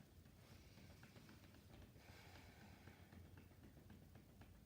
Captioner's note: gentle tapping